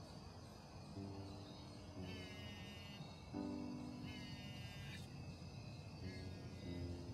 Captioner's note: the phone rings